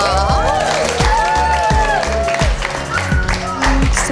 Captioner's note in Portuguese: Gritos